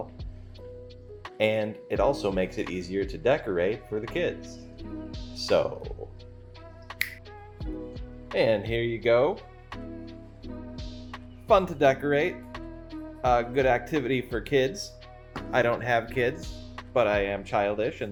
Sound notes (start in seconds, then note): 6.9 fingers snap